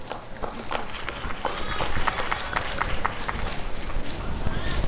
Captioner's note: applause and cheering